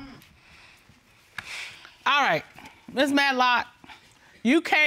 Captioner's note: sighs